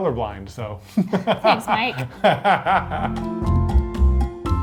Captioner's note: laughing